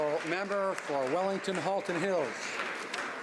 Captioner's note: some Applause